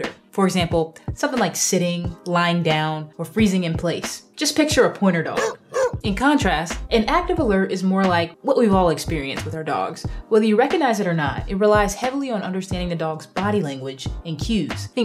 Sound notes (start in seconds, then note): 5.4 dog barking